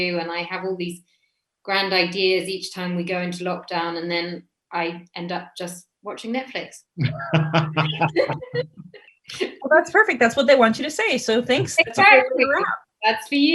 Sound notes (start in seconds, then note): 7.0 laughs loudly